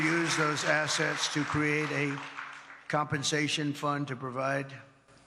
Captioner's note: cheers and applause